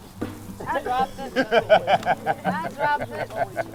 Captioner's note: laughs